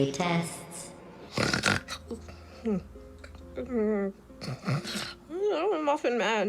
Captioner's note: snores, mutters